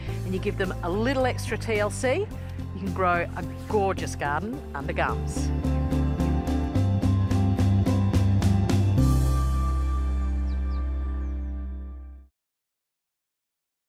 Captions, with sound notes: and you give them a little extra TLC, you can grow a gorgeous garden under gums. (BIRD TWITTERS)